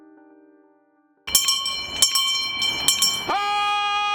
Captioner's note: bell rings